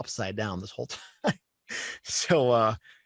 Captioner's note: chuckling